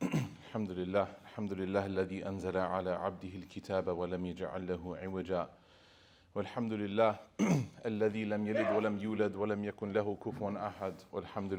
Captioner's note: speaking Arabic